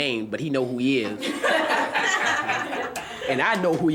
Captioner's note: students laughing